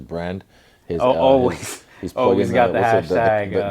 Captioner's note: chuckle